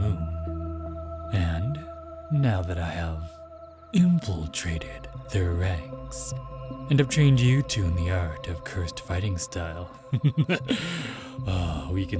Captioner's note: sly laughter